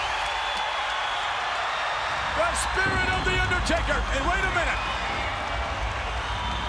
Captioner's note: applause